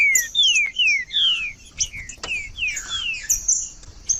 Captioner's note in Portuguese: trinca ferro cantando